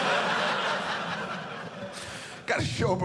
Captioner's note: audience laughing